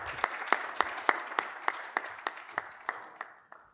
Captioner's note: applause